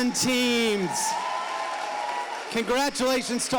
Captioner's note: audience applauding